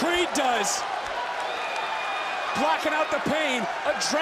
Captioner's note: crowd cheers